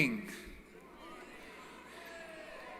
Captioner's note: applause & Cheering